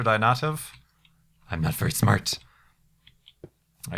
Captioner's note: Homer Simpson Voice